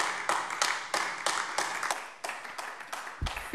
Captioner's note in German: Beifall AfD